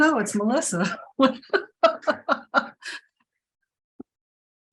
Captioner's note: laughs